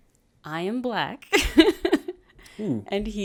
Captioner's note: laughs